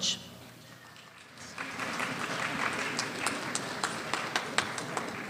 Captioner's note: small audience applause